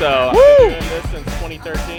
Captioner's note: excited cheering